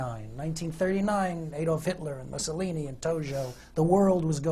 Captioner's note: none